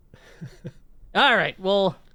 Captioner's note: laughs